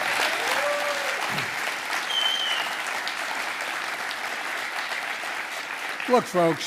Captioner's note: applause